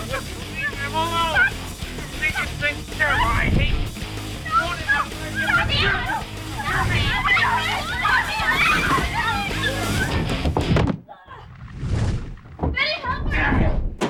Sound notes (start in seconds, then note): 2.2 yelling